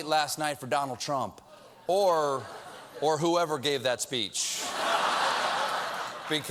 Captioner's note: laughter